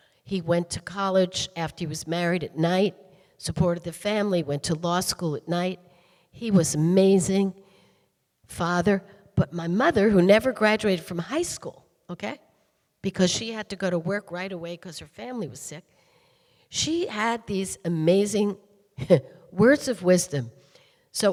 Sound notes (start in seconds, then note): none